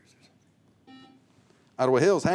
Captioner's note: whispers; buzzer